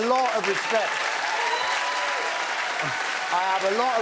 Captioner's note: cheers and applause